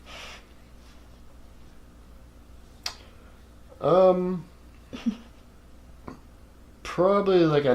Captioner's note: laugh